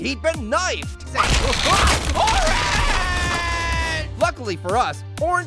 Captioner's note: Pear screaming